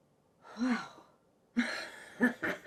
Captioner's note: Betsy exhales heavily